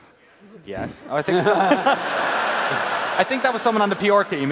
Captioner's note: laughs